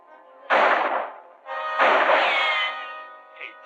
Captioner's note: gunshots